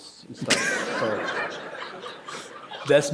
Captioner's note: laughter